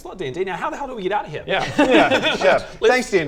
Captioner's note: cold laughter